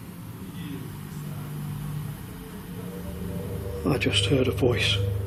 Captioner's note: distant voice